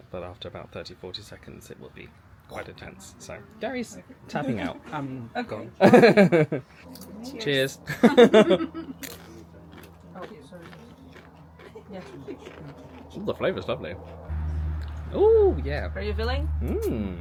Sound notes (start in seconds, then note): 7.8 chuckles; 7.9 laughing; 10.6 chips crunching